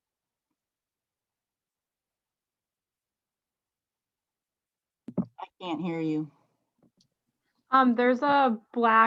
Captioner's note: silence for a little bit